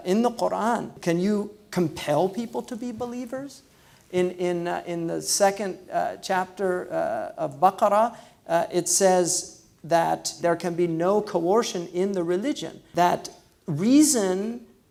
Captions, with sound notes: in the Quran, can you compel people to be believers, in the second chapter of (foreign language), it says that, there can be no coercion in the religion, that reason